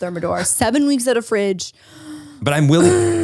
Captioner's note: angrily exhales